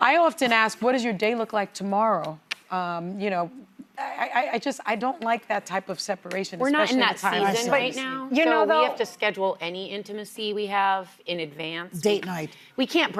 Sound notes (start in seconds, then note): none